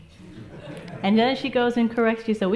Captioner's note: audience laughs